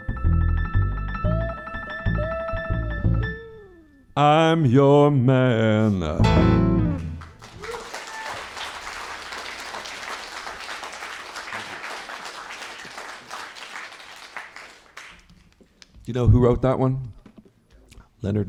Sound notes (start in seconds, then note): 10.6 applause